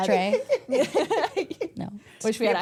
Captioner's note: everyone laughs